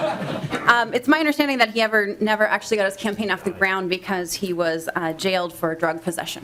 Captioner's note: lauging